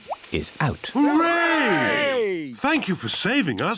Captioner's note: cheering